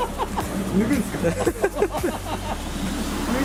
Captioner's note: laughs